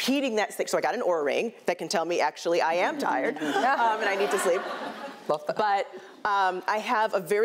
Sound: chuckles

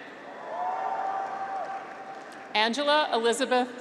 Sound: graduates cheer

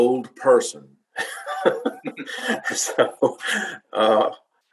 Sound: both laughing

